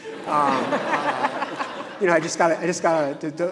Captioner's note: audience laughing